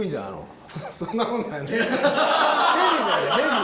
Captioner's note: laughs